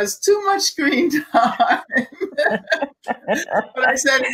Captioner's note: laughing